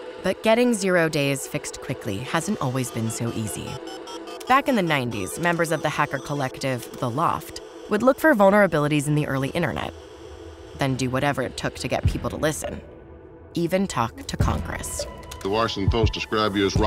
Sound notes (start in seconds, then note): 2.5 dial up modem beeps